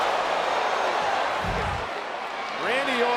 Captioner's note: Randy thudding; crowd exclaiming; scene swooshing